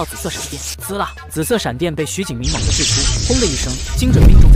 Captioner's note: sizzle!